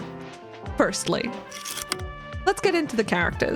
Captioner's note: projector slide click